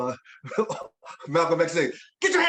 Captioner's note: chuckling